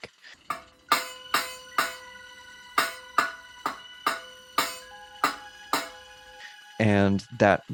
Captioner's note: banging on metal barn star